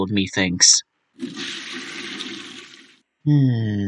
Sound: flush

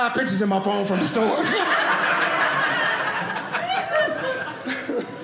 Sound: audience laughing

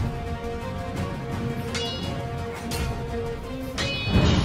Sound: swords Clashing

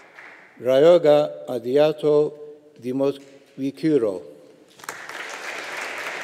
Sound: audience applauding

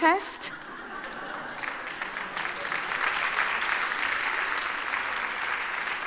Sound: audience laughing and applauding

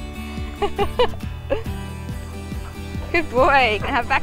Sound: laughs

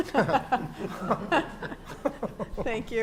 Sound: laughter

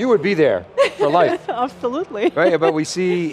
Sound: laughs

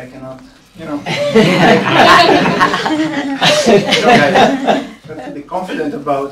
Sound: laughter

